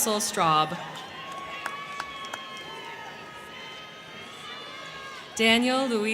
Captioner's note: crowd cheering; crowd clapping